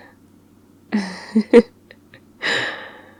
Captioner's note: laughs